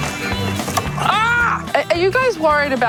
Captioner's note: Alice screams